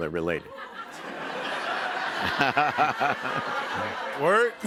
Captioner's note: laughter